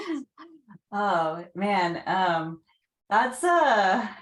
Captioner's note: chuckles